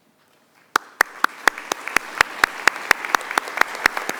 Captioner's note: group clapping